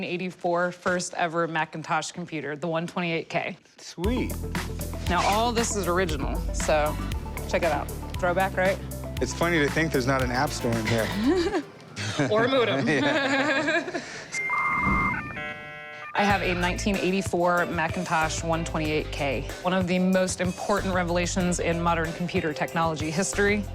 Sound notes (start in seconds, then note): 11.9 laughs